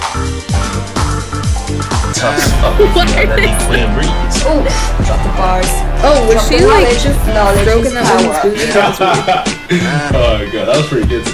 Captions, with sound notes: (laughs) what is this OH was she like, stroking that woman's booty? that was weird